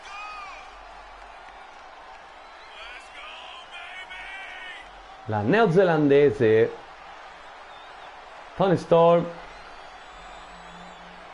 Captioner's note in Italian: Applauso